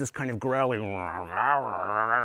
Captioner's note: growling